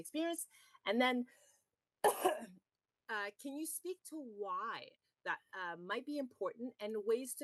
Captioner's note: coughs